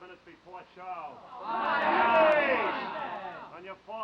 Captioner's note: men groaning